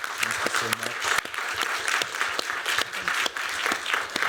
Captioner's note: applause